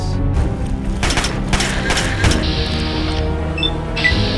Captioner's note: gun firing; beeping